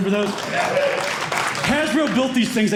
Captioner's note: applause